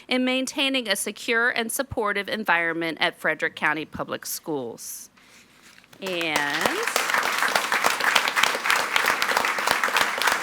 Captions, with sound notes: in maintaining a secure and supportive environment at Frederick County Public Schools. (all applauding)